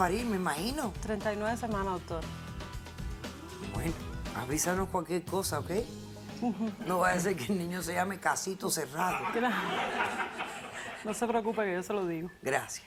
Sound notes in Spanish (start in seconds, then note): 6.3 Risas; 9.0 Carcajadas